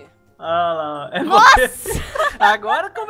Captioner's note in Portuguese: Risadas